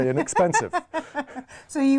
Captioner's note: laughing